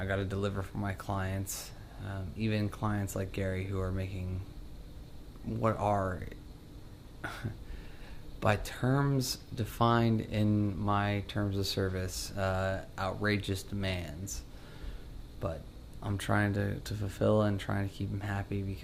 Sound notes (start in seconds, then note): 7.2 chuckles